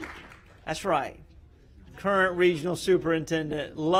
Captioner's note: applause